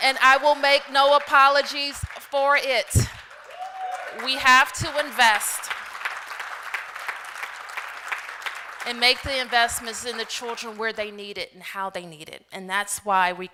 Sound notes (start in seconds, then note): 3.5 applause